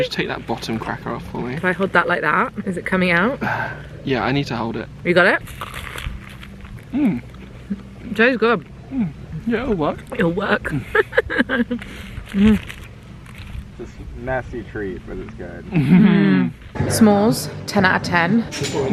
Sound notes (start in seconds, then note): 10.6 laughs